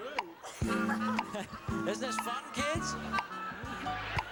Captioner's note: chuckles